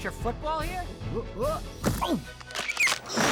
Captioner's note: exclaims